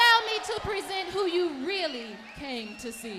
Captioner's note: crowd cheering